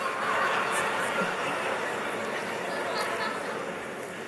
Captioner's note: laughs